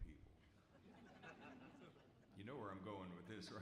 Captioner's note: audience laughs